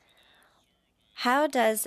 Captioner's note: speaking French